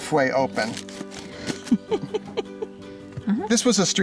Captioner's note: laughs